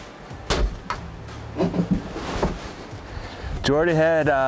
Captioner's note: gun shoots